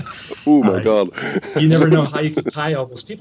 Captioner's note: laughs